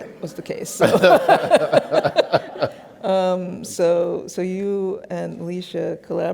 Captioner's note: laughs